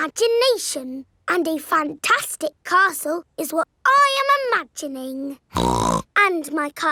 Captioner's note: snorts